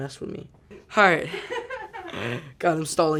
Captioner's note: woman laughing